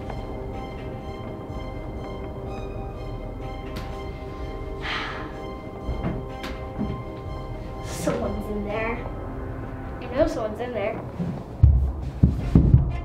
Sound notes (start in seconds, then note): 4.8 sighs